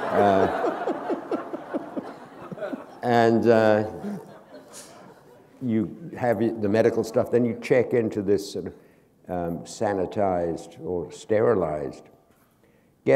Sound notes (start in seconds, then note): 0.0 laughter